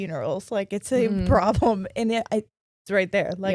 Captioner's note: chuckling